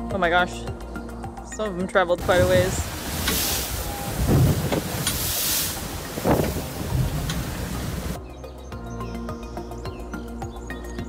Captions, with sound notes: Oh my gosh. (background music) Some of them traveled quite a ways. (crashing waves and wind noises) (background music)